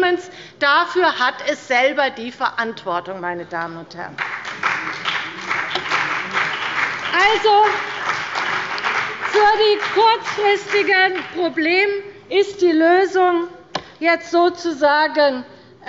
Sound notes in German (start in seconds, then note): 2.3 Beifall bei dem BÜNDNIS 90/DIE GRÜNEN und der CDU